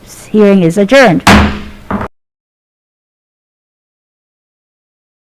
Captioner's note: gavel bangs